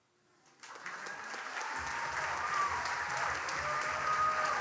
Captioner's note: audience cheers and applauds